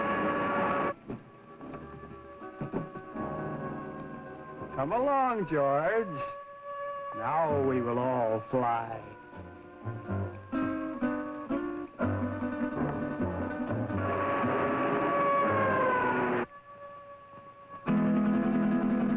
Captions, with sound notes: Come along, George. Now we will all fly. (sirens blaring) (suspenseful music)